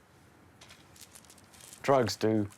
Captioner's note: pills rattle softly